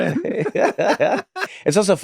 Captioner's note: both laughing